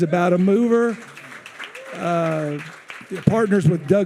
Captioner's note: attendees cheering